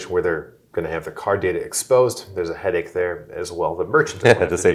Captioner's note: laughing